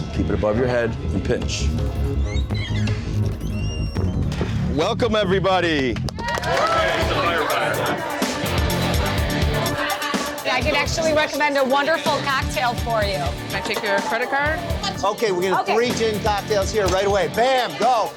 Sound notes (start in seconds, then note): 1.6 tense music; 6.2 cheering